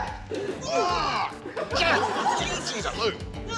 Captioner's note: grunts; screams